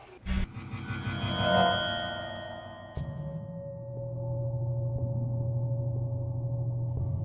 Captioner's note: eerie, hollow electronic sounds